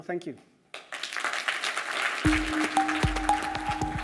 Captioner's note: applause; upbeat music